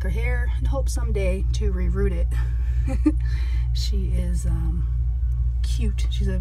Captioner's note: chuckles